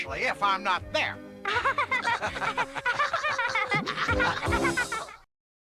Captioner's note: laugh